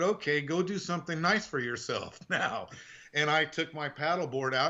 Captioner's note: laughing